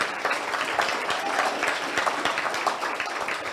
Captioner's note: audience applauds